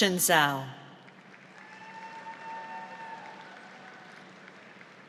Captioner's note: audience applauds